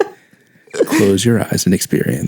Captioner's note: narrator voice